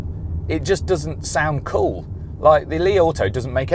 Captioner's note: engine revving